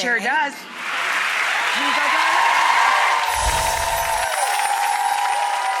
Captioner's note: applause